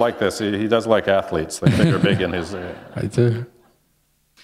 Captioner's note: laughter